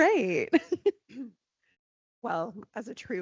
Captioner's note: laughing